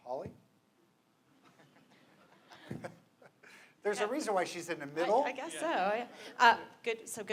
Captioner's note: laughter